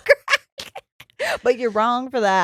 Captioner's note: laughs loudly